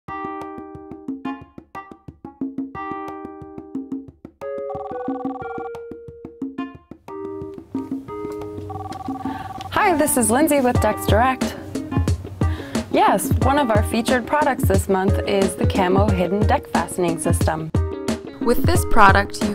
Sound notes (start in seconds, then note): 0.9 phone ringing